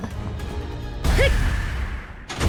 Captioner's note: hmph!!!!!!